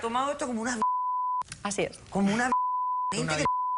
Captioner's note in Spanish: Bip